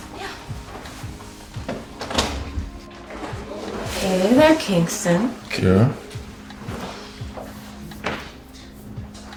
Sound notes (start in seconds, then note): 1.6 door clacking